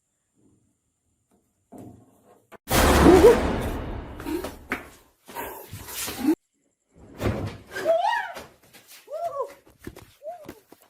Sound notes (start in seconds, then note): 2.9 screams; 7.8 yelling